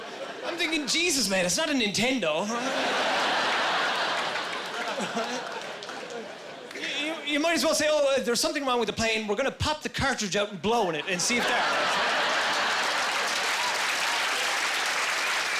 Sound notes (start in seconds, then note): 2.5 laughing; 11.4 applause